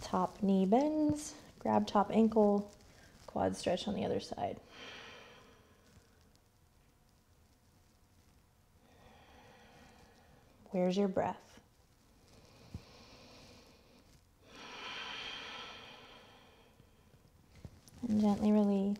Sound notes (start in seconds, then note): 12.8 heavy breathing